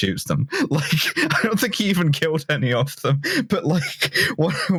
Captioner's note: laughing